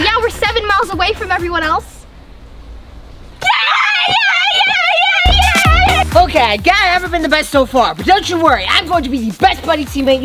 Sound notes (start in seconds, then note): 3.4 cheering